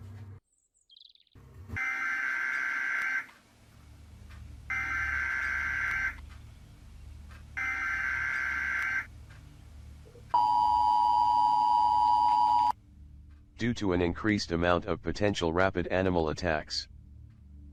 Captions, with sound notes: (birds chirping) (TV buzzing loudly) (TV buzzing loudly) (TV buzzing loudly) (TV beeping) - [Announcer on TV] Due to an increased amount of potential rabid animal attacks,